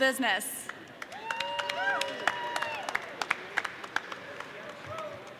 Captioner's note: audience cheering